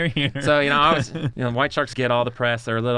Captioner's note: laughs